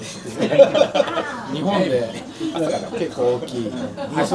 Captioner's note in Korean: 웃음